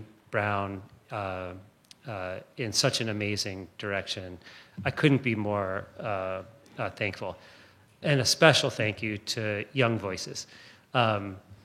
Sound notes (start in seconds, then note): none